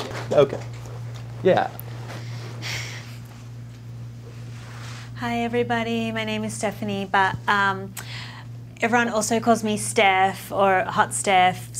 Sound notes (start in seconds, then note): 0.0 students clap begrudgingly; 2.6 Stephanie exhales